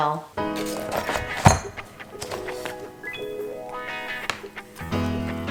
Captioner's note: metal clinking